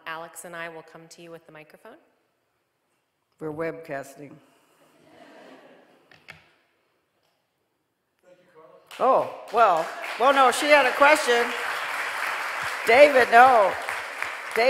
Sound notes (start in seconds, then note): 5.0 audience laughing; 11.8 audience applauding